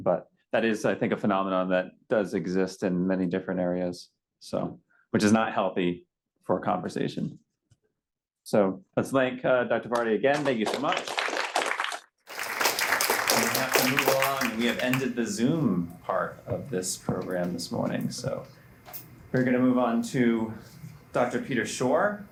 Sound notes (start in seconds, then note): 10.3 applause